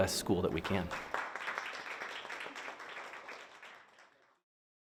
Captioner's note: hand clapping